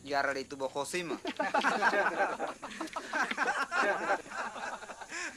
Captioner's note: laughter